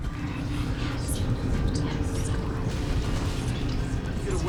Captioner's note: whispering voices